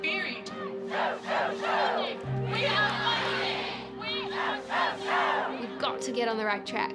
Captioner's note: crowd chanting